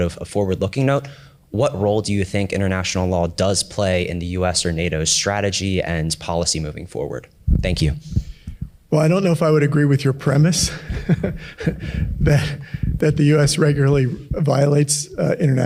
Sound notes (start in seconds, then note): 10.6 laughs